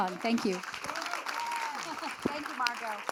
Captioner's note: audience claps; laughs